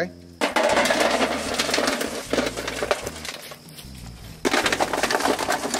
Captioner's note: hot charcoal clatters into pan